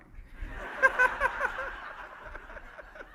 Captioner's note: laughing